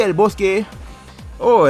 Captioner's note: inhales